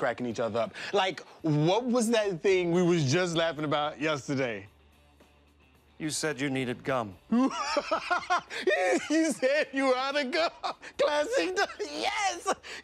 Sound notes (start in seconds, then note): 7.3 laughing